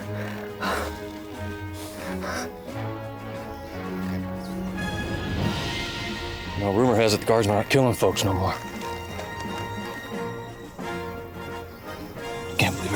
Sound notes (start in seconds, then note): 5.6 panting